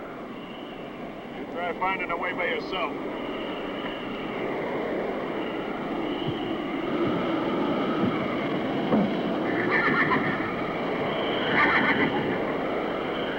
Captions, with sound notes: - You try finding the way by yourself. (strong wind howls) (horse neighs)